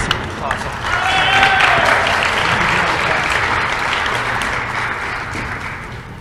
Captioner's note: applause